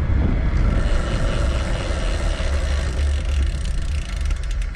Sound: bicycle clicking

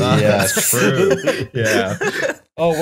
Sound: laughter

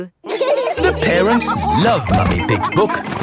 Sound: all laughing

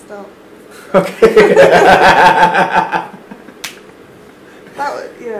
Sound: laughing

